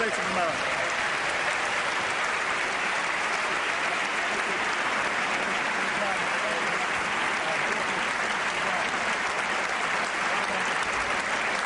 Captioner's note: applause